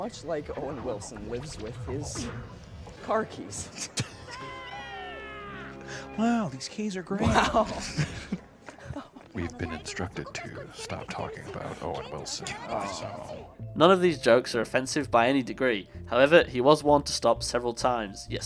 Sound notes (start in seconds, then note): 3.7 laughing; 5.0 Owen Wilson Voice; 8.4 laughing